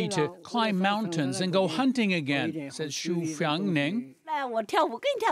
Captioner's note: speaking chinese